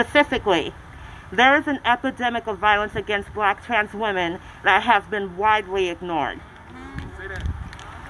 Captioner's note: applause